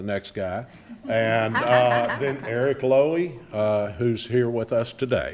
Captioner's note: attendees laughing